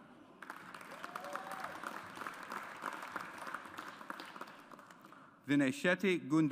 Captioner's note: audience applauds